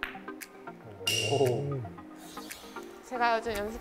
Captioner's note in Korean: 일동 감탄